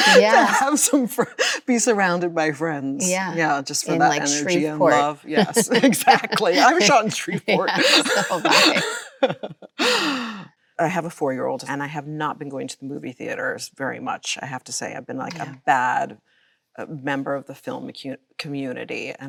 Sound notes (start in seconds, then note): 5.3 both laughing; 9.9 Chloe laughs